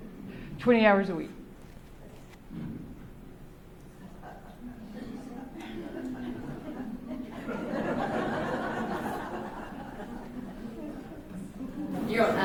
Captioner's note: laughter